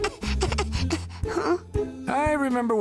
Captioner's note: fussing